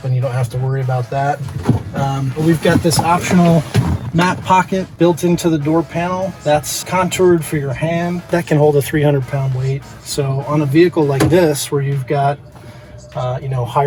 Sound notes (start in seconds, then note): 1.5 door opens